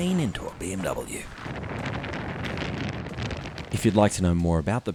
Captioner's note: wind blowing